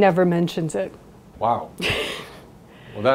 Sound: laughs

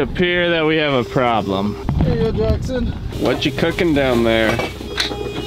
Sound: alarm sounding

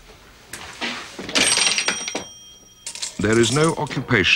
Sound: register dings

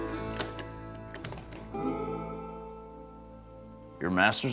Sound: door opens

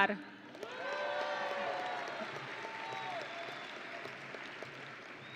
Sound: audience and graduates cheering

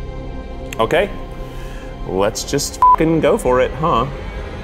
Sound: beep

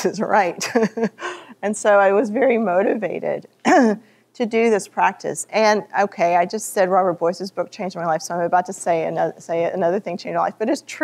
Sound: laughter

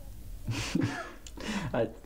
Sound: laughs

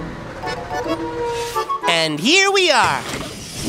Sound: brakes squeak; door opens

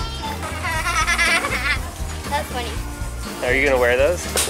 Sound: laughs

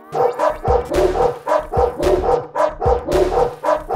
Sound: barking

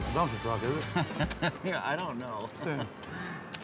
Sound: laughs

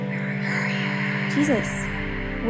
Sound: whisper

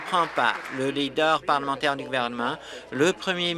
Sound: applause

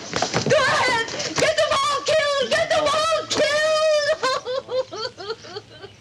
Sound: sobs

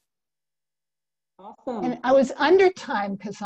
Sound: laughing

